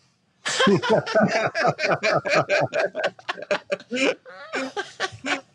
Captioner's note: laughs